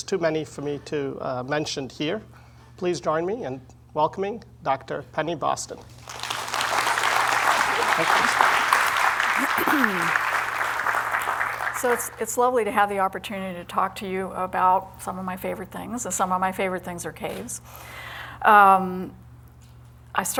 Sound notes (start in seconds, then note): 5.9 applause